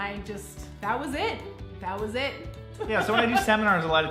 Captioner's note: laughs